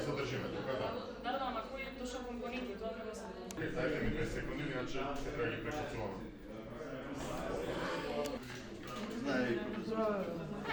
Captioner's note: chatter